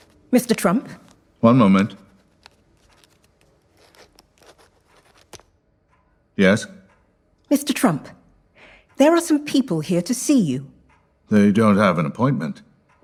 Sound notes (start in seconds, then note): 0.0 footsteps entering; 1.9 scribbling; 5.3 writing stops